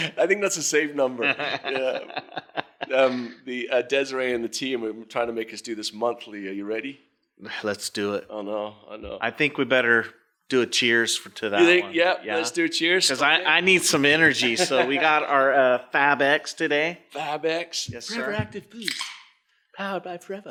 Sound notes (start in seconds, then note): 1.2 laughs